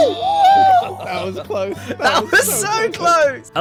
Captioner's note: excited squeaking